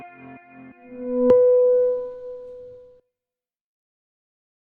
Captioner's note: bell ringing